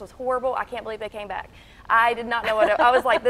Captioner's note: laughing